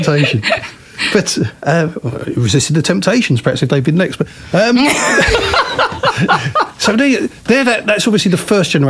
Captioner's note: laughter